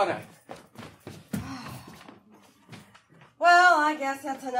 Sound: sighing

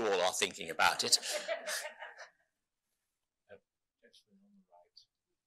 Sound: laughing

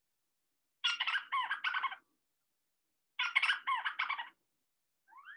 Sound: Petrol chirping

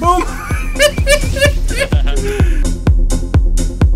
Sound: laughs; outro music

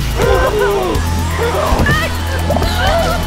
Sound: Anna Screaming

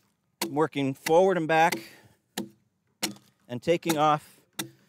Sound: short, fast chopping

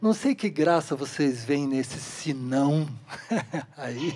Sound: laughter

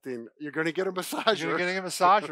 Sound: laughs

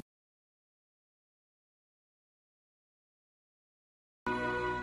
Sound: silence; music ends from an edited video cut, while Leo the Lion does his roar

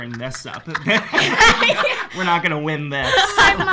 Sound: laughs

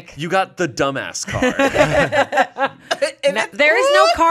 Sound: everyone laughs

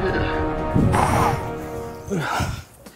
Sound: blows nose

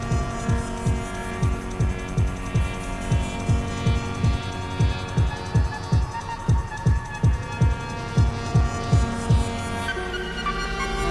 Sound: noisy mechanical sounds fill the empty spaces in the score

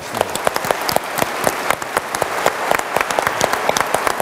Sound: audience applauds

